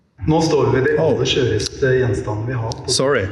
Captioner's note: non-english speech